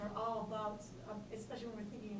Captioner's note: voiceover